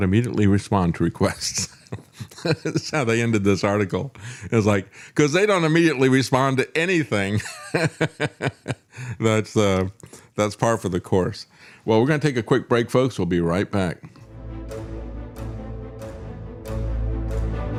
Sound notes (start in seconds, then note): 1.6 laughs; 7.6 laughs; 14.2 dramatic Music